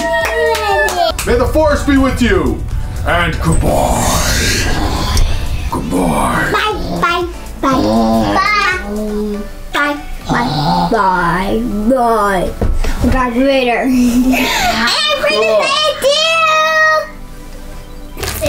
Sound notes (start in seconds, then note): 6.4 deep voice; 8.5 deep voice; 14.0 laughs